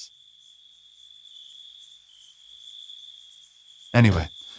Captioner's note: crickets chirping